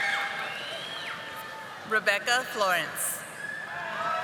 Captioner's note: audience applauding